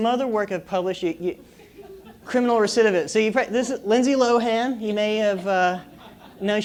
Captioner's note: laugh